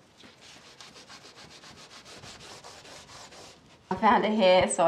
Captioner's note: scour pad scraping